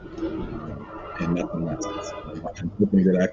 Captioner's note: car hoots